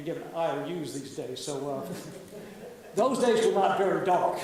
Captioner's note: audience laughs